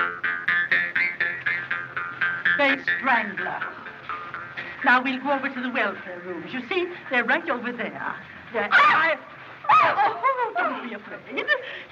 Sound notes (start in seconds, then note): 4.0 gasps; 8.6 shrieks